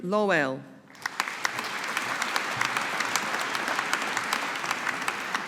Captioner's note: audience applauding